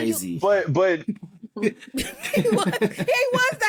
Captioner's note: laughter